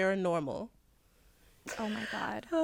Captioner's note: laughter